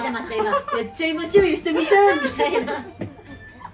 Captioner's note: laughs